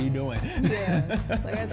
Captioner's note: laughs